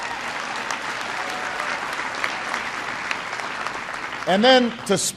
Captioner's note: applause